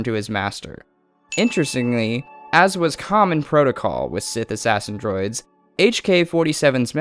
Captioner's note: ding